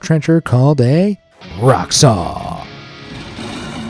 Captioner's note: audio rolls